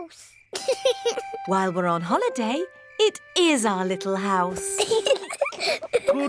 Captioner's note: george laughs; both laugh